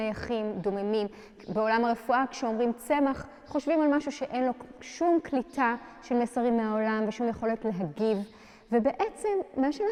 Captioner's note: in Hebrew